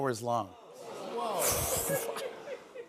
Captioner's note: audience "Oohs"